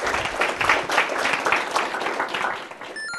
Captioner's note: applause